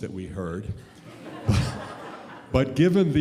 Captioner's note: audience laughs